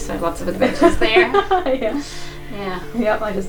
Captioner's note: laughs